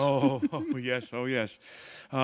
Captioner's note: chuckle